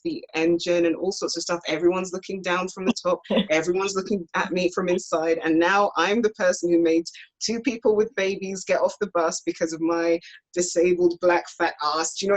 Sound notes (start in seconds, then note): 3.2 laughs